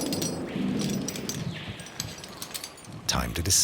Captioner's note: thunder rumbling